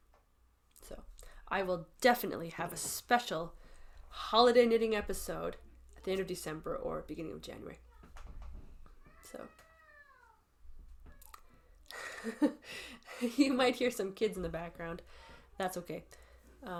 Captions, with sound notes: So I will definitely have a special holiday knitting episode at the end of December or beginning of January. So. [kids in the background] [chuckles] You might hear some kids in the background. That's okay. Um.